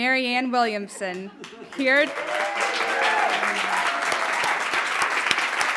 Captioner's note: audience applauding